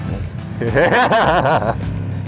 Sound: laughter

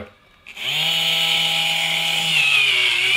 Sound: whirring

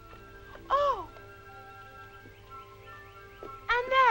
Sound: Bernadette gasping

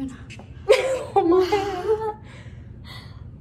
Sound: laughs

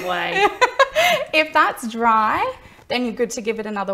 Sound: laughs

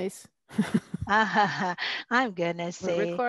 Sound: laughter; chuckling

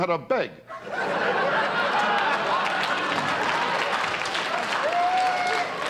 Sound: audience laughter

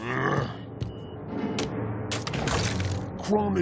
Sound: grunting

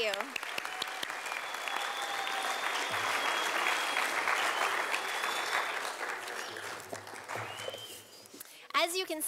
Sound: sound of applause from audience

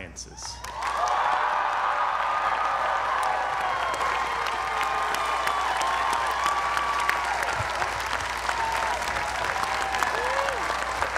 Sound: applause

